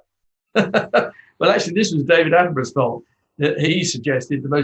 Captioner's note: laughs